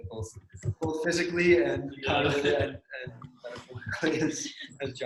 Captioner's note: murmurs